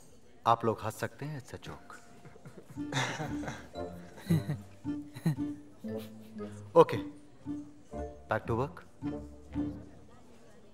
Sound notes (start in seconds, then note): 2.4 Fake laughs; 3.9 Giggles